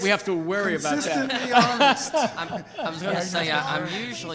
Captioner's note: board members laughing